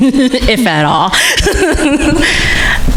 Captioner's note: laughing